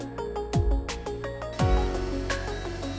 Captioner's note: drone lands